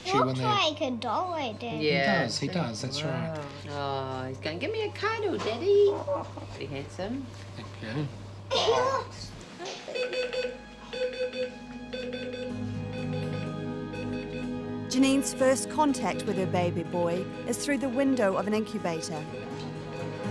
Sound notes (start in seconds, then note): 10.1 beeping sound